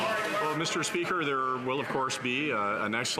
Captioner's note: some Applause